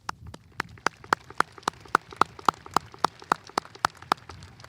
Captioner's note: audience applauding